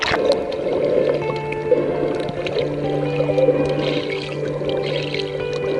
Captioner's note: sound: breathing and swimming